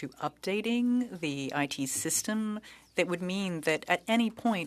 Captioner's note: speaking French